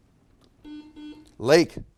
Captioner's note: buzzer beeps